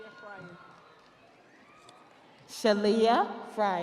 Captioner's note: audience cheering